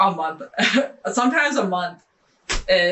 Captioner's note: laughing